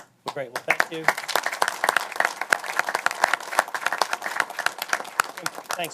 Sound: applause

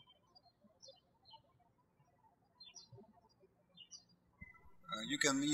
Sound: birds chirping

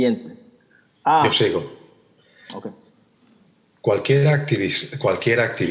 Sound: translator speaking in Spanish

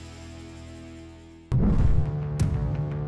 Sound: whoosh

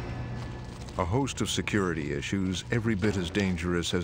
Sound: voiceover

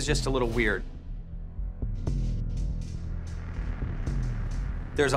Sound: electricity buzzing

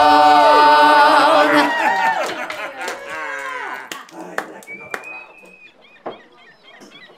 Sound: patrons cheering; patrons laughing; seagulls calling

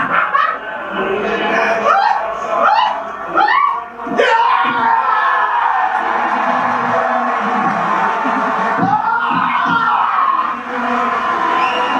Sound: applause

